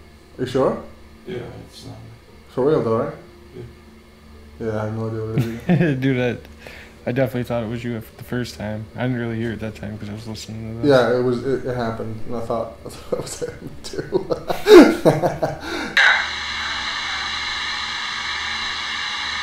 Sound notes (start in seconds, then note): 13.0 laughs; 15.9 radio noise hissing